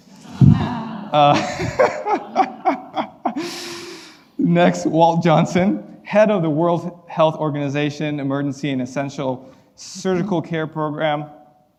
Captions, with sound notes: (laughing) Next, Walt Johnson, head of the World Health Organization Emergency and Essential Surgical Care Program.